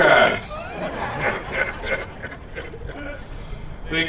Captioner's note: laughter